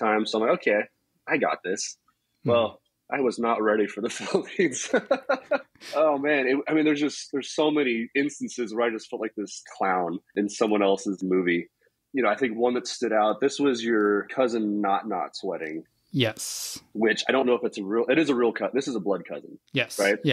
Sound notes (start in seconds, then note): 4.6 laughs